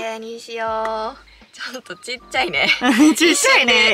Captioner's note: laughs